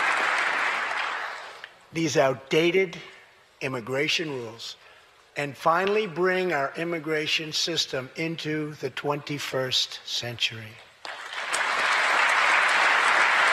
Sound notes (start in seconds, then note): 0.0 applause